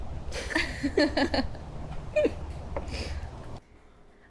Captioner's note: both laughing